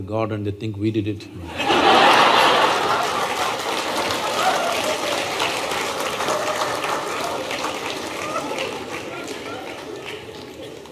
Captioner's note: laughter/Applause